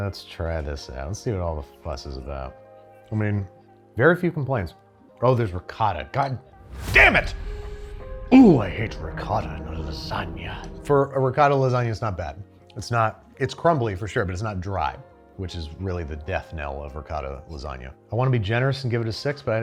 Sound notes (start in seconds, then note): 6.6 air whooshes